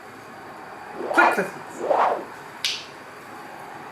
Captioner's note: air whooshing; loud click